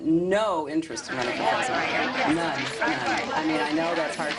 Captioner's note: laughter